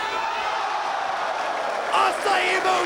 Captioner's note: audience cheering